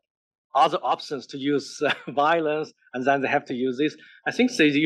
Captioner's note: laugh